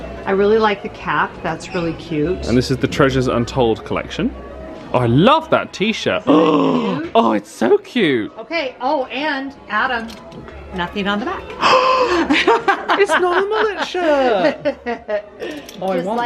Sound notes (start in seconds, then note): 6.2 gasps; 11.6 gasps